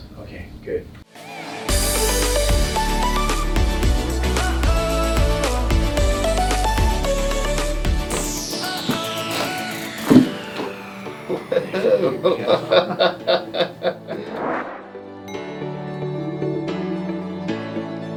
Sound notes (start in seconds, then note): 1.7 upbeat music playing; 8.7 popping sounds; 11.2 laughing; 15.3 upbeat music